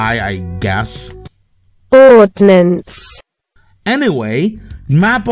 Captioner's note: Google Translate voice